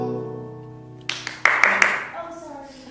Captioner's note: Holly applauds